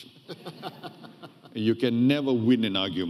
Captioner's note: audience laughing